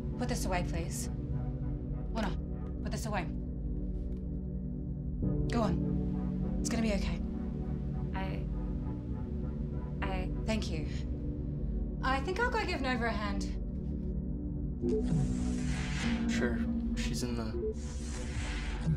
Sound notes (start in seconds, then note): 14.9 door beeps and whooshes; 17.7 door beeps and whooshes